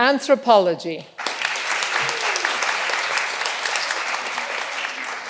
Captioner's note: all applauding